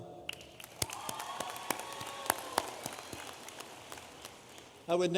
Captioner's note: audience applauding